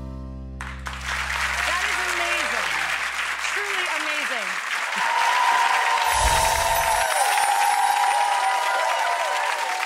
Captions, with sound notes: That is amazing, truly amazing. (crowd cheers)